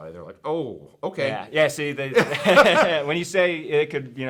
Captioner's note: both laughing